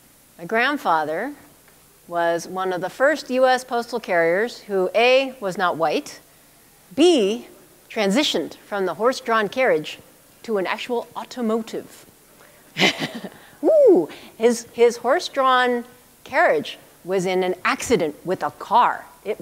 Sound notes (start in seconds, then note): 12.7 chuckle